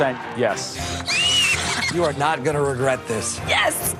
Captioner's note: Gritos